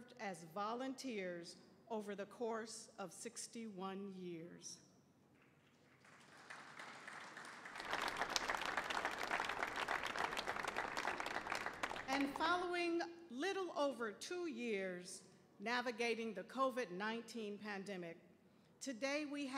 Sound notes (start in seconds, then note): 5.8 audience applauding